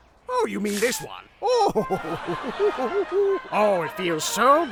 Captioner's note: wholesome laugh